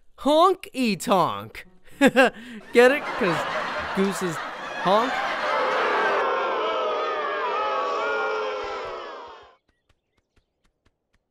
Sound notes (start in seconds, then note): 1.9 chuckles; 6.0 booing